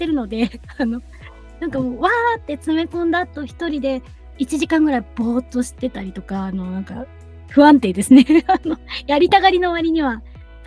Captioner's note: laughs